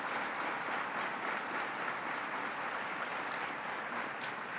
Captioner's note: applause